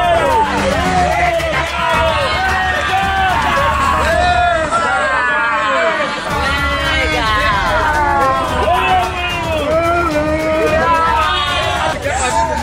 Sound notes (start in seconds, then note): 0.0 locals shouting energetically; 0.0 rhythmic music continues; 4.0 locals shouting